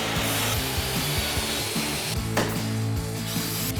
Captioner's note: rock music; tools buzzing